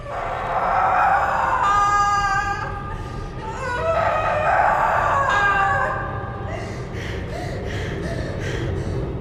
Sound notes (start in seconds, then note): 0.0 screams; 7.0 panting